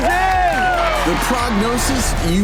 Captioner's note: audience cheering